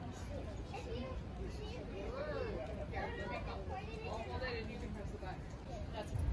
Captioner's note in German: Leute sprechen im Hintergrund